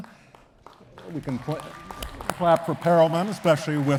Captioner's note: attendees clapping